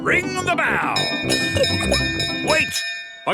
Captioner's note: bell chimes